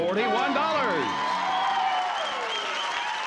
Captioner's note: cheering